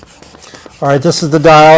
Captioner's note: bulb pumping